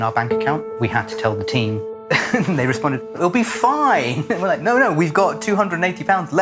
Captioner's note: laughs